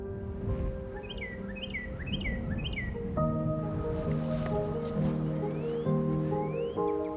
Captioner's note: calm music; birds chirping